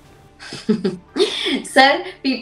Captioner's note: snickers